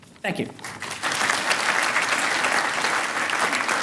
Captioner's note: applause